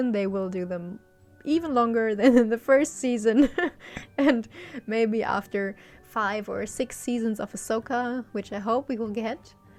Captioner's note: laughs